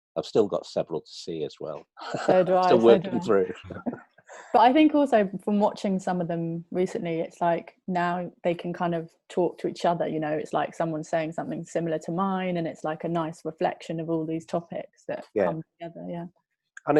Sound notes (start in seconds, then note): 2.0 laughs